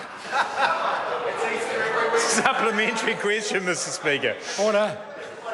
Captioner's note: members laugh